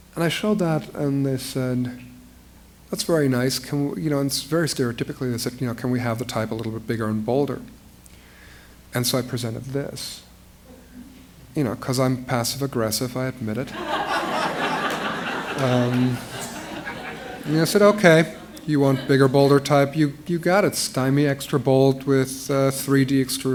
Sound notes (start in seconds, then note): 16.9 laughter